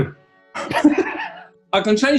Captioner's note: laughing